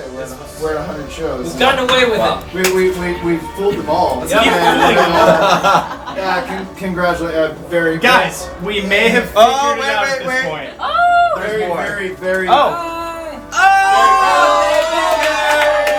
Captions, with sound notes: We're at 100 shows. - It's unbelievable. - We filled the ball. Congratulations. - Guys, we may have figured it out at this point. - Ooh! (group cheering)